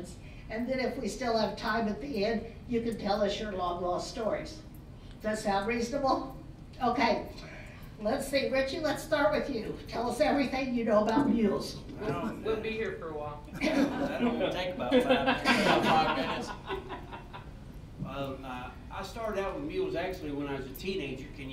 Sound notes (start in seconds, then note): 14.8 laughter